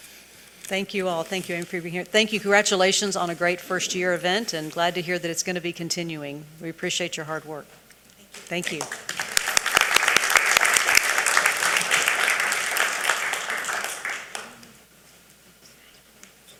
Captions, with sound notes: - Thank you all. Thank you for being here. Thank you. Congratulations on a great first year event, and glad to hear that it's gonna be continuing. We appreciate your hard work. Thank you. (audience applauding)